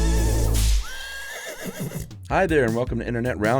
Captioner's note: horse neighs